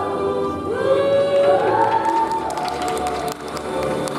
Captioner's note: audience cheers